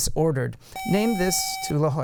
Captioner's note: buzzer